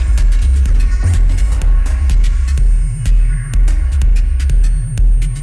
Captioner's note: none